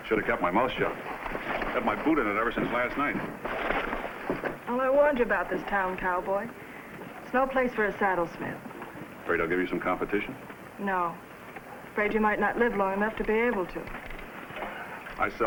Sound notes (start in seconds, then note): none